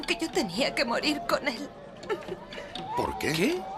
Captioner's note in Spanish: llora